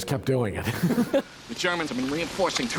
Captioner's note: laughter